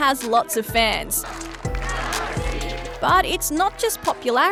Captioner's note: chanting